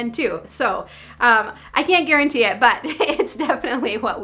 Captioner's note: laughing